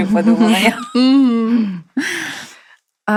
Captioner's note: laughter